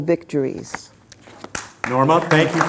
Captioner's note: background applause